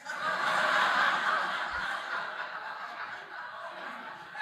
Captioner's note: audience laughing